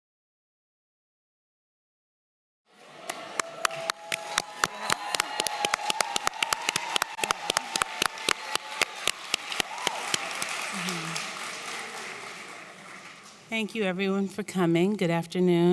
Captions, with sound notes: [Applause] Thank you everyone for coming. Good afternoon.